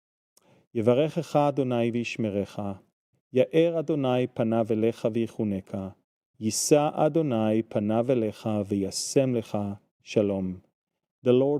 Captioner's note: Aaronic blessing in Hebrew